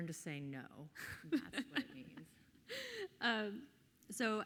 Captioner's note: laughs softly